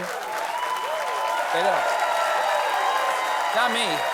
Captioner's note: applause; cheering